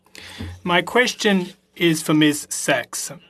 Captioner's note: speaking French